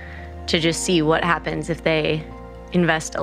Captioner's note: none